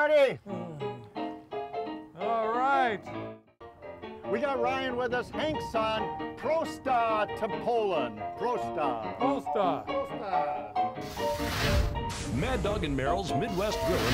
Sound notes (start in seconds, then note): 6.1 speaks in foreign language; 10.5 upbeat music